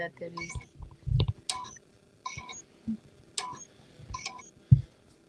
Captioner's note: beeping